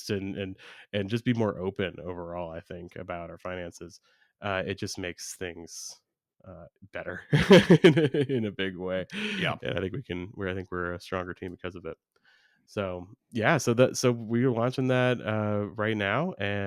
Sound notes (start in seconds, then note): 7.3 laughs